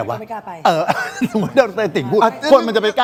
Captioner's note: laughs